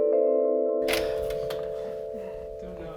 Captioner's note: door opening